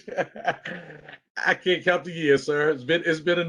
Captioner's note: laughter